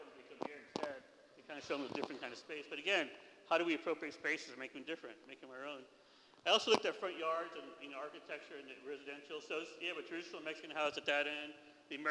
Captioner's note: foreign language